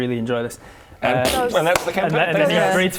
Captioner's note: pfft